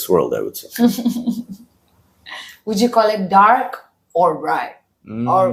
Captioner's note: laughs